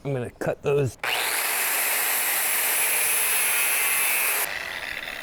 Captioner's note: drilling